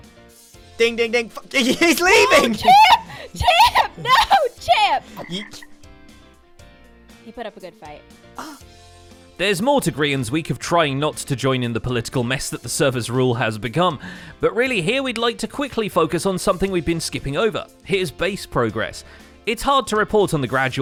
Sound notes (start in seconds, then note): 5.1 ribbit; 8.4 gasps